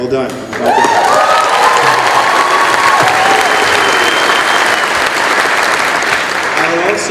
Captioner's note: cheering